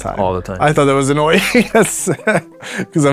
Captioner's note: laughs